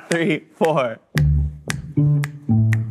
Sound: laughs

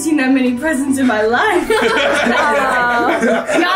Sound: group laughs

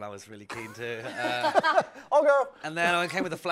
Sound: laughter

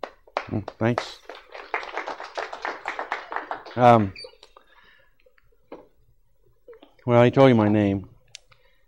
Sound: applause

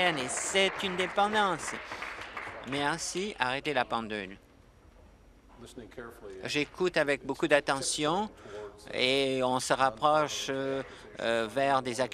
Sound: applause

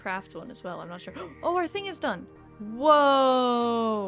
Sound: gasp

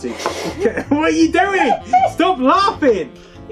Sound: snigger

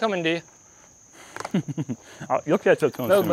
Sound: chuckles

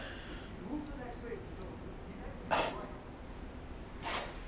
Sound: background chatter

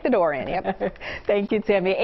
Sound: laughter

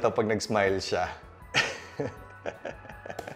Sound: giggles

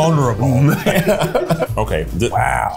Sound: laughs

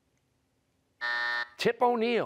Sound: buzzer

